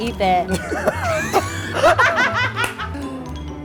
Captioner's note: laughter